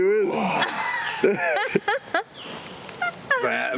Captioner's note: moans and groans